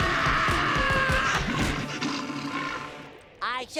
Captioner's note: screaming; growling